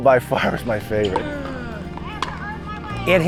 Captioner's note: court noises